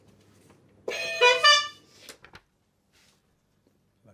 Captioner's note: buzzing